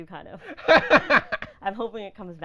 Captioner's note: laughing